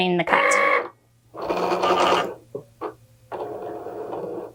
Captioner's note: machine whirring